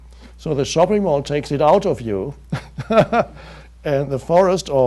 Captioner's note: laughs